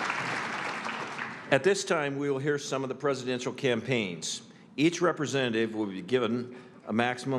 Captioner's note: applause